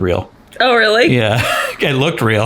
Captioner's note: laughs